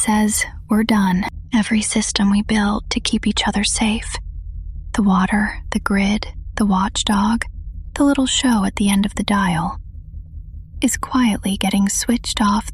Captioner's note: whispers